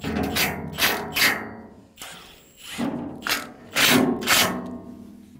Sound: metal reverberating

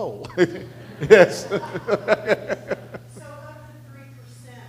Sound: audience laughter

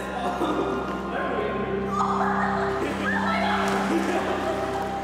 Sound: playful shouting; laughter

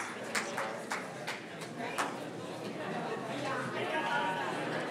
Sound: audience murmuring

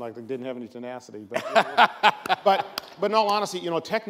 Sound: laughs

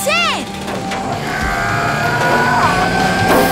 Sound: grunting

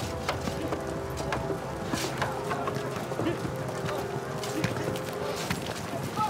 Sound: ominous music; workmen chattering

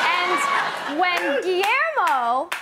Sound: laughter

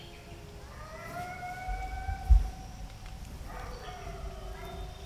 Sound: distant howling

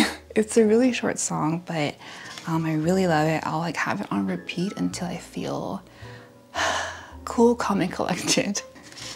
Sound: sigh

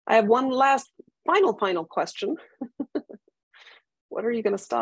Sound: laughs

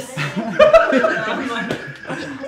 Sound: blub Burst

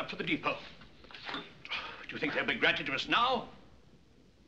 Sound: sighs

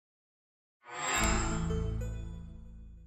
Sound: chime

